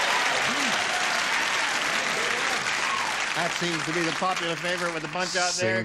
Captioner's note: cheering